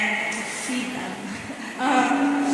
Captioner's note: chuckling